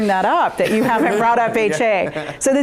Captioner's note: laughing